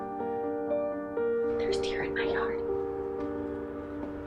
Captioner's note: whispering